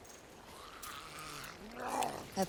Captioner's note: zombie snarling